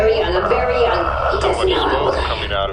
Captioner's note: whispering